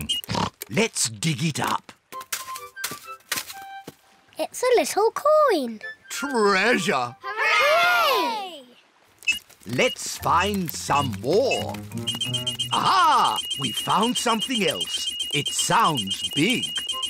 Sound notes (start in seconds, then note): 0.0 oinks; 11.4 beeps quickly; 11.4 beeps slowly